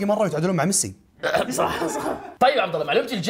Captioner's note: laughs